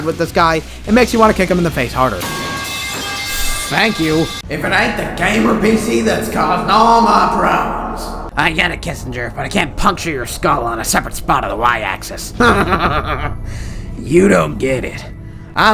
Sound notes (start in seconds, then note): 2.2 metal pipe falling sound effect; 12.4 giggles